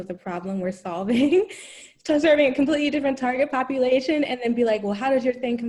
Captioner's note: laugh